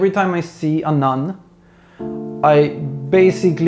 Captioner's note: deep breath